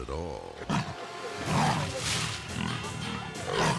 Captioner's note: lion growling; suspenseful music; lion snarling